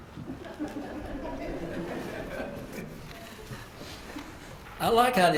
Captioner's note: laugh